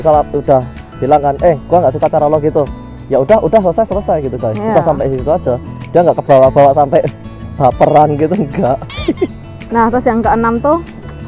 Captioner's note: chuckles